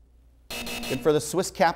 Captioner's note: buzzer